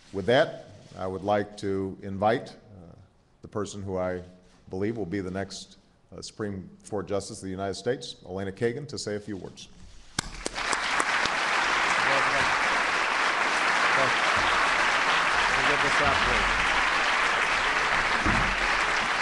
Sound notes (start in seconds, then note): 15.9 applause